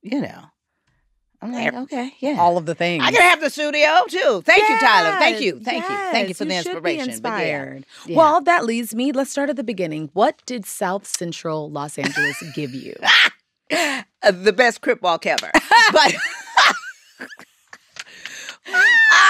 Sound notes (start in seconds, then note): 13.0 laughs; 15.5 laughter